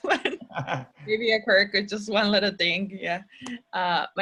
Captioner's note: chuckles